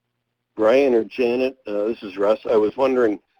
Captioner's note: voiceover